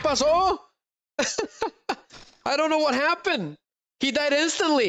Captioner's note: laughter